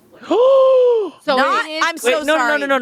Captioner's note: gasping